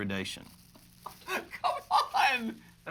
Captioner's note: laughing